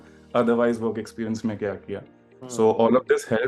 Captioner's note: says hmm